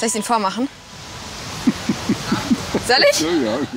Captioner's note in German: Lachen